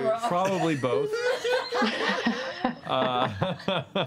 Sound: laughter

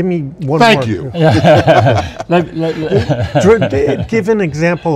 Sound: laughs

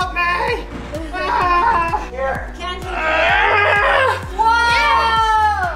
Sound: screams

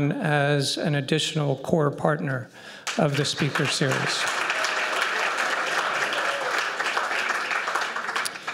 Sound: applause

